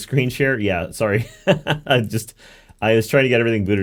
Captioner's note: laughs